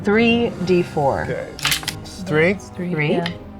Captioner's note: die rattling